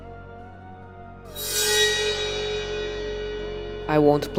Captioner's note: FortNuggets Warning Sense Sound plays